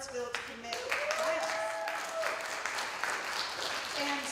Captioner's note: cheering and applause